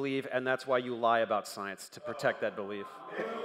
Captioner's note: crowd noise